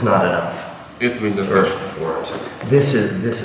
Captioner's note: speaking in a foreign language